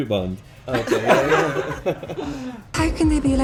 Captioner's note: laughing